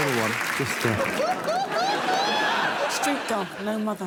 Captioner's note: laughs